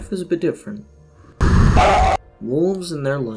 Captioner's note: howlingintensifies